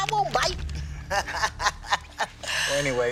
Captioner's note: both laugh